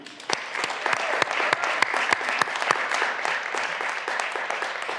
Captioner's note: graduands applauding